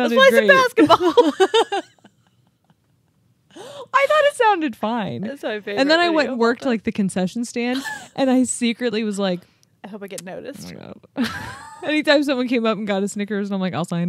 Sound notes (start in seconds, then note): 0.8 chuckling; 11.2 chuckles